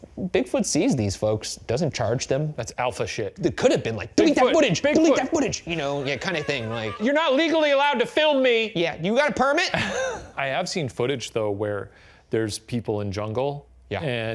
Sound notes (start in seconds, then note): 5.6 laughing; 9.6 laughing